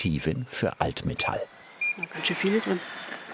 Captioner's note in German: Piepsen